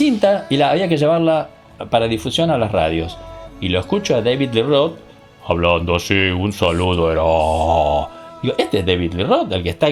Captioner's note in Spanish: voz muy grave